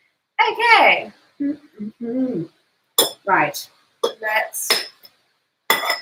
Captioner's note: hums